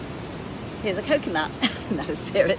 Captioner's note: laughs